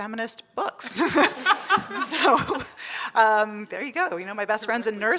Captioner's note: audience laughing